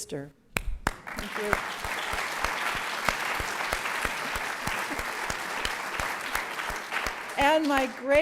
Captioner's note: applause